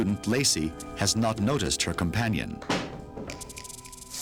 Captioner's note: door closes